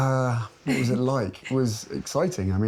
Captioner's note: chuckling